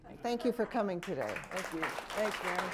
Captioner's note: applause